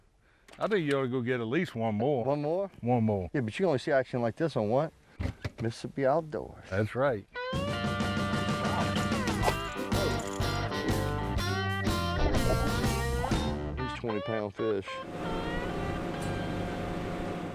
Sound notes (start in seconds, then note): 4.0 upbeat twangy music; 8.6 water bubbling; 11.9 engine revving